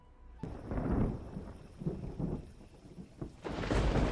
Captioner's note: lightning; eerie Tense Music